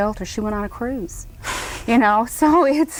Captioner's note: Cruz laughs breathily